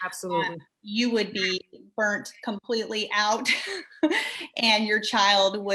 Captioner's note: chuckles